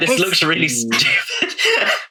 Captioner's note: laughs